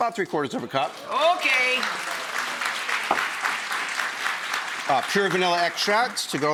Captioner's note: audience clapping